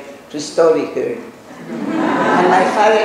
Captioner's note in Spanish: laughs